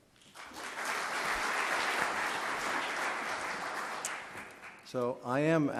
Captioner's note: audience clapping